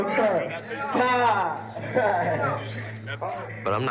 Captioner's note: laughs